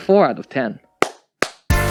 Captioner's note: claps